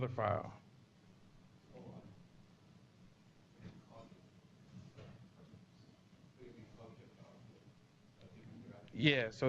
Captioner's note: pause